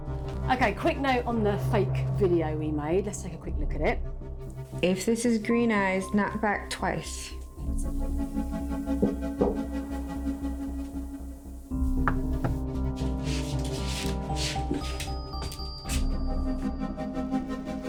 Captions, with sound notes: - Okay, quick note on the fake video we made. Let's take a quick look at it. - If this is Green Eyes, knock back twice. (knocking on door) (knocking on door) (suspenseful music)